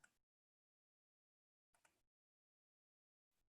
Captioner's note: pointer clicking